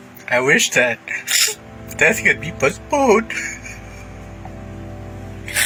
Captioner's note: crying